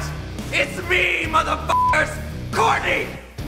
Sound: beep

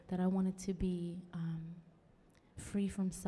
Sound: none

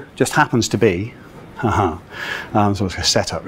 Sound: speaker laughs

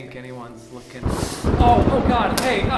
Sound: holy thunder

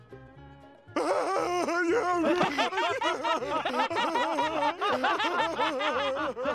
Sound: laughing

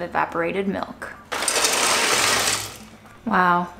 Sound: pasta rustling

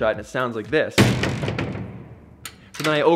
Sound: jail doors slam

